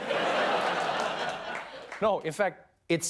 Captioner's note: laughter